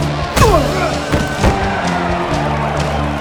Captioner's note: audience applauds